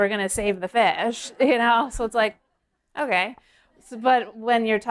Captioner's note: laughter